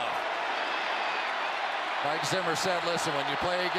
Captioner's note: cheering